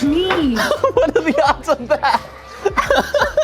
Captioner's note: laughing